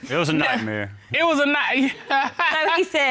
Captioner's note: laughs